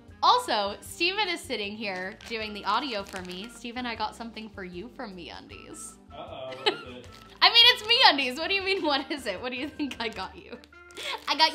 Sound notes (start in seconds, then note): 6.2 chuckles